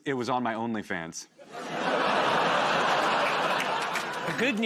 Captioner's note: laughter